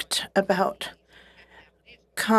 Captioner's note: speaking French